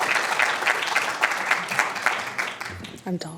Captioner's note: applause